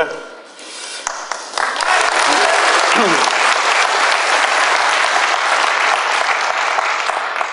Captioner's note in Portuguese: Aplausos